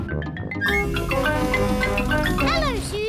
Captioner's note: horn blares